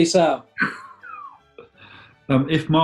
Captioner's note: sniggering